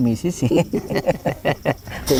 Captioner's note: laughs